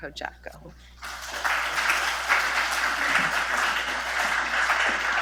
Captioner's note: audience clapping